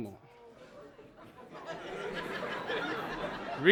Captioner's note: audience laughing